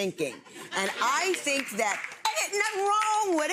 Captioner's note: audience chuckles